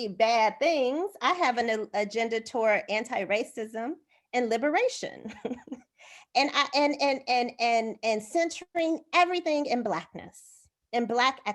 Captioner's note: laughter